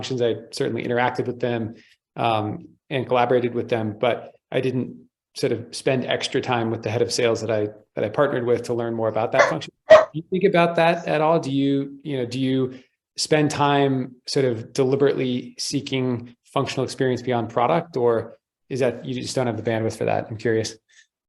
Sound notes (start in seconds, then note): 9.8 dog barking